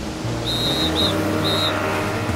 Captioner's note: whistle blowing